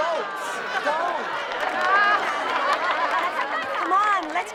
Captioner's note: laughter